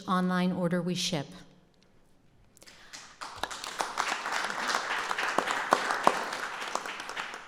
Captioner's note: applause